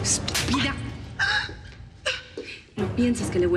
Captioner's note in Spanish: bofetada; sollozos